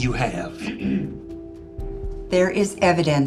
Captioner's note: clears throat